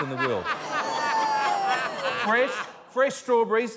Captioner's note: laughter